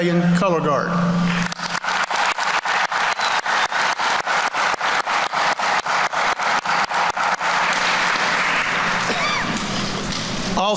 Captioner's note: applause